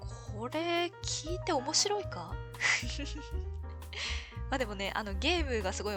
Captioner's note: laughs